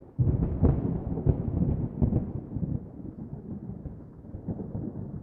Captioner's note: thunder